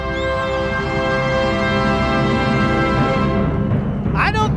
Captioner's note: crowd cheering